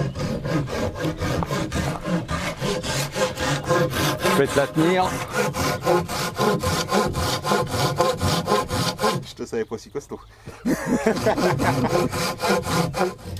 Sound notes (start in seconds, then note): 10.4 laughs